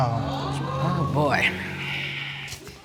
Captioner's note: all exclaim